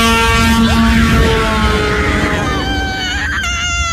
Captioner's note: truck blaring; screaming